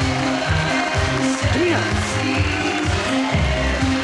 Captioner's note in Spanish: aplausos